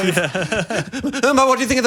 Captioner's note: laughs